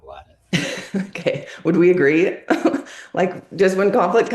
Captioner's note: laughs